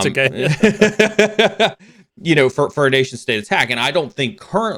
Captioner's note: laughs